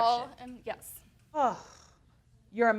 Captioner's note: sighs